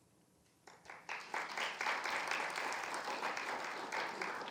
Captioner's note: audience applauding